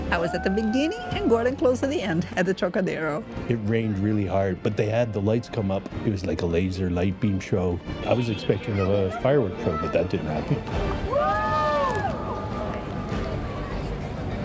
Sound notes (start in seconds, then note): 10.6 crowd cheering